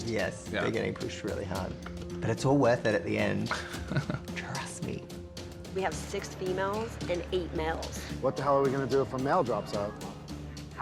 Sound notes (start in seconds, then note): 3.4 laughs